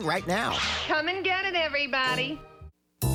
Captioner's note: imitates rocket launch